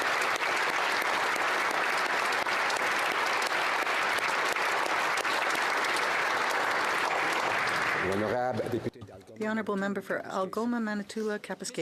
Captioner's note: applause